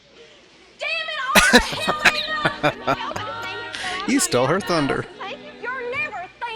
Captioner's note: laughing